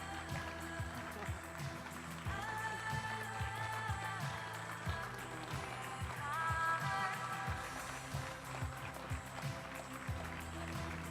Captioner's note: applause